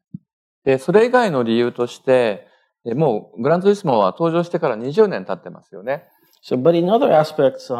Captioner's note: speaking japanese